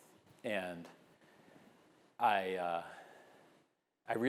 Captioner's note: none